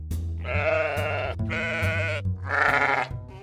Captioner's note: baaing